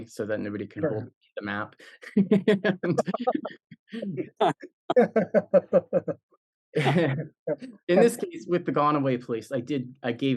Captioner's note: laugh